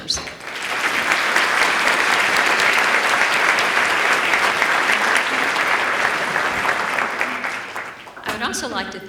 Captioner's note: applause